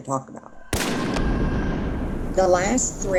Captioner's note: gun bangs